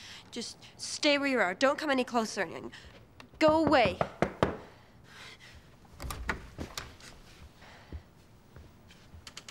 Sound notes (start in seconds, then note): 3.4 knocking on door